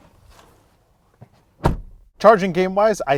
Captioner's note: door clicks